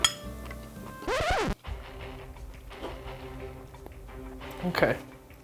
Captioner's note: record scratches